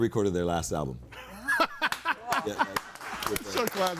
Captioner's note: laughing and applauding